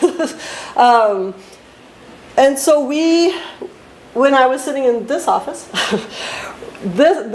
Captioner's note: laughs